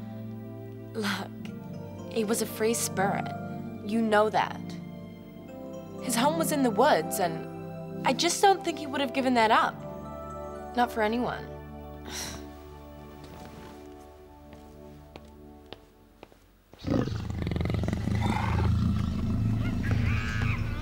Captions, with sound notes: Look, he was a free spirit, you know that. His home was in the woods and I just don't think he would have given that up. Not for anyone. (growls)